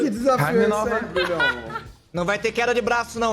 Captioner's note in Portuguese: risada